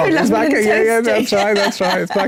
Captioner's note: laugh